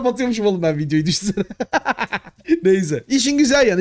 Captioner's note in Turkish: gülüşmeler